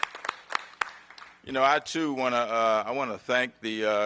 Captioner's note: applause